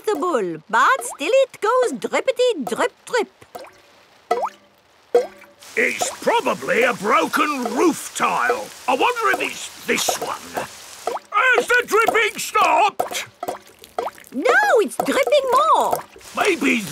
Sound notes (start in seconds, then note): 4.9 water dripping